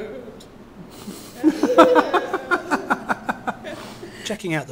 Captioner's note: laughing